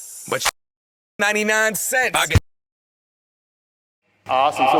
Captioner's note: muted